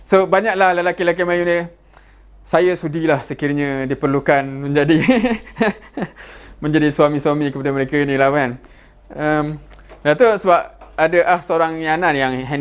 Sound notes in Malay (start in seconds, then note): 4.9 ketawa